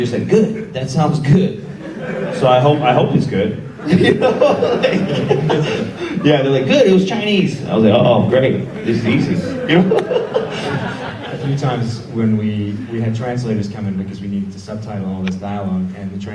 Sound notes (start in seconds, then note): 1.6 audience laughs; 3.6 Edison laughs; 8.2 audience laughs